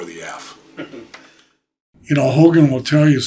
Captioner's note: interview chuckling